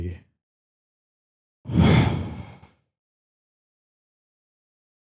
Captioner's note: deep Exhale